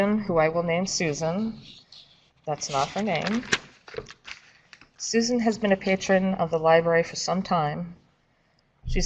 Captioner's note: papers shuffling